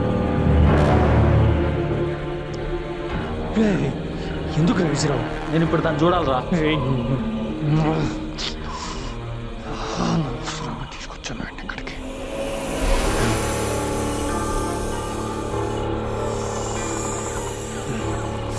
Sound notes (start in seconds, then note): 9.5 murmurs; 11.8 snake hissing